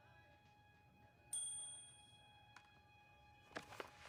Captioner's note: metal clashing